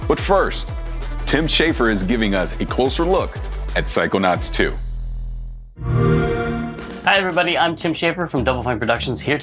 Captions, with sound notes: But first Tim Schafer is giving us a closer look at Psychonauts 2. [XBOX SOUND] Hi everybody, I'm Tim Schafer from Double Fine Productions